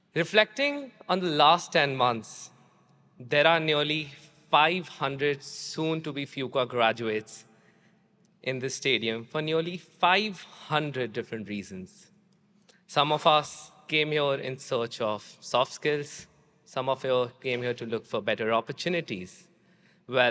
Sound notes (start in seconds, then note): none